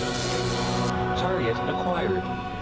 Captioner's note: computer voice